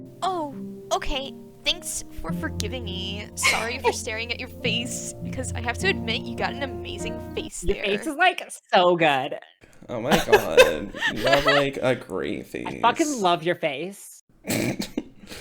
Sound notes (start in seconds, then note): 9.9 valley girl style; 14.4 chuckles